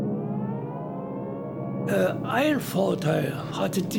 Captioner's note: air raid sirens